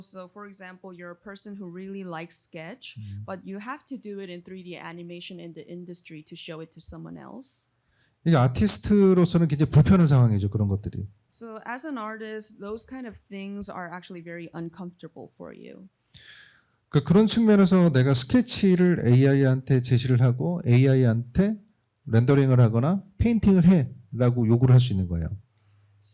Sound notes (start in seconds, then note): 8.3 speaking korean; 17.7 speaking korean